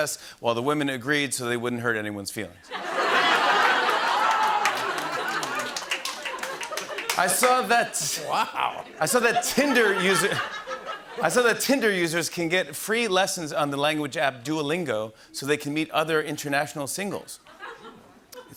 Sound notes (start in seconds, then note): 2.7 laughter and applause